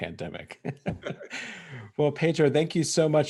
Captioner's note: laughing